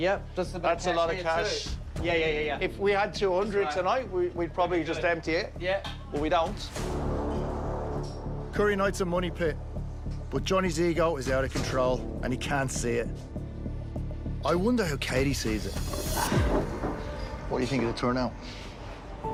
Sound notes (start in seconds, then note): 15.9 sighs